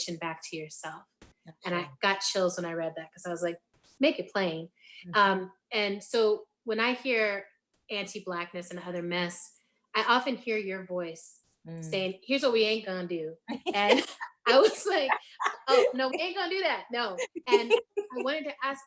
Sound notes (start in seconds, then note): 15.0 laughing